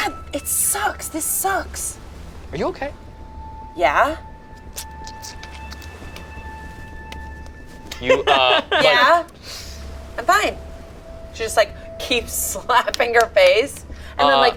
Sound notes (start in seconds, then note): 4.7 squelches; 7.9 laughs